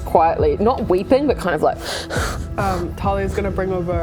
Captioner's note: hyperventilating